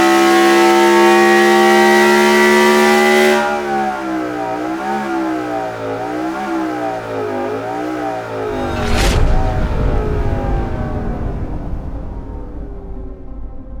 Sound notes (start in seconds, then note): 2.8 engine roaring continues